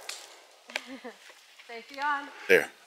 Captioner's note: chuckles